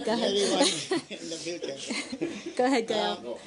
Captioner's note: laughter